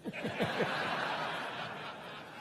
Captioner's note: crowd laughing